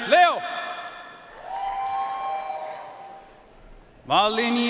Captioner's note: audience cheering and applauding